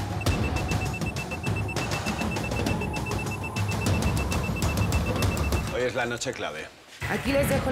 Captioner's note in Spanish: Sonido al bajar archivo